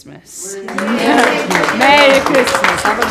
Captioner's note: residents applauding